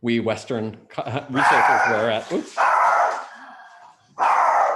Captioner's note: dog barking